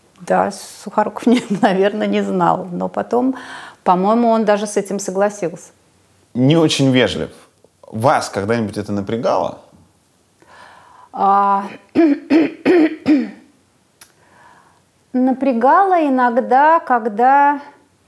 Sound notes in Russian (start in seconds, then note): 11.9 прокашливается